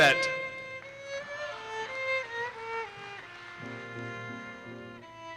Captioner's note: audience cheers and applauses